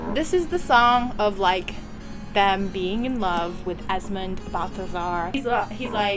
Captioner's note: none